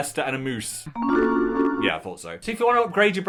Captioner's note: computer chimes